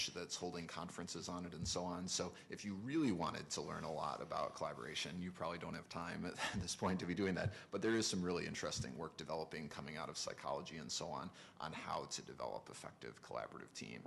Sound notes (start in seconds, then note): 6.2 chuckles